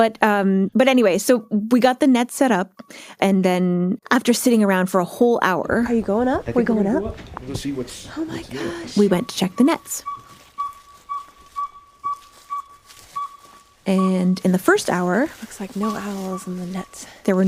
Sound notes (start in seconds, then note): 12.5 hoot hoot hoot